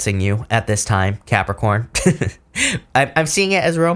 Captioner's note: chuckles